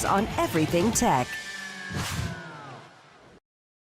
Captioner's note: air whooshing